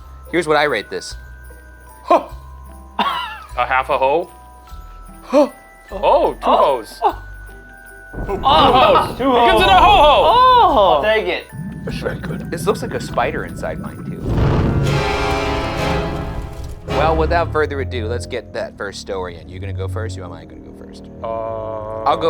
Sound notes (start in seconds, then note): 14.4 smoke whooshing; 14.4 upbeat intense music